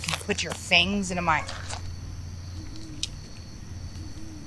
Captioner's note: screeching